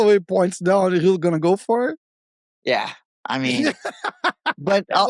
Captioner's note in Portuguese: risos